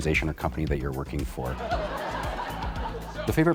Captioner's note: laughter